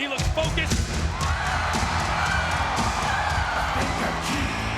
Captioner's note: upbeat music; audience cheering